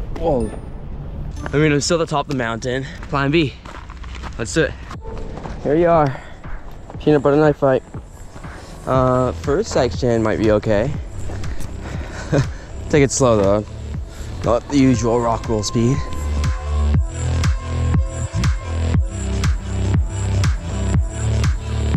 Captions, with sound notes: Whoa, I mean, I'm still the top of the mountain. Plan B, let's do it. Here we are, Peanut Butter Knife Fight. First section might be okay. (chuckles) Take it slow though. Not the usual rock roll speed. (bright music)